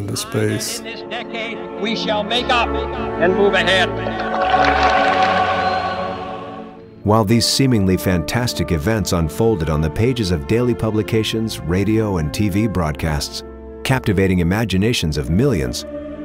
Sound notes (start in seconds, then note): 3.8 audience cheers